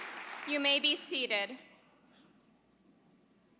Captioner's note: applause